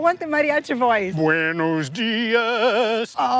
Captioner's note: in Spanish